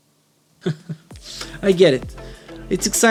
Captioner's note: chuckles